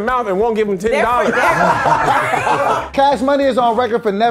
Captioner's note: laughing